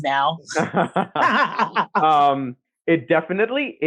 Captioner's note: laughs